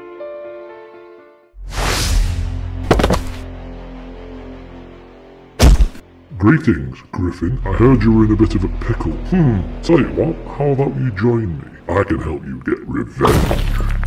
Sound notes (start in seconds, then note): 0.0 sad Music; 1.7 strong Air SFX; 2.5 creepy Music